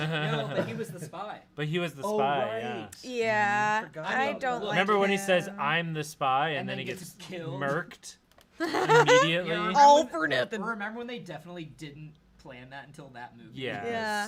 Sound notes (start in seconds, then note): 0.0 laughs; 8.6 laughs